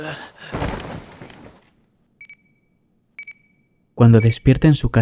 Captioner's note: alarm clock